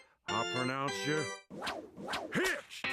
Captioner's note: whooshing